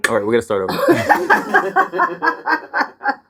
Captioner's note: laughing